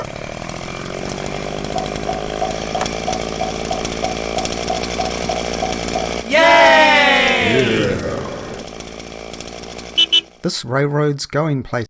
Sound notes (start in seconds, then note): 4.7 chainsaw throughout; 6.2 kids saying Yay! .. me saying Yeah!